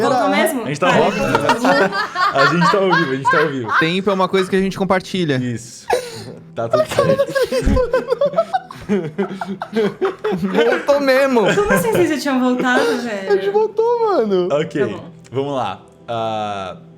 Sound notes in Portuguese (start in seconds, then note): 3.6 risada; 9.6 risadas